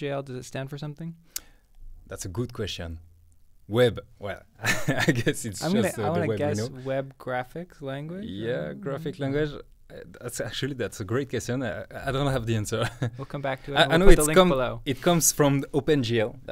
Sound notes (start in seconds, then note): 5.6 laughing